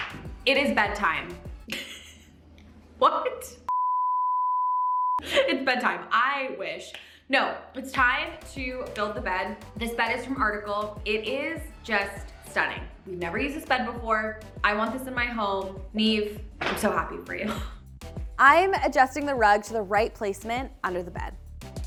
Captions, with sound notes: It is bedtime. (laughing) What? (beeping from graphic) It's bedtime. I wish! No, it's time to build the bed. This bed is from Article. It is just stunning. We've never used this bed before. I want this in my home. Niamh, I'm so happy for you. I am adjusting the rug to the right placement under the bed.